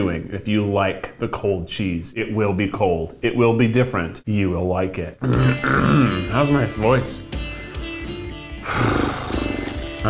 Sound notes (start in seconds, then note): 5.2 clears throat; 8.6 blows raspberry